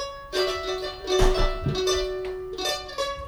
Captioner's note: thudding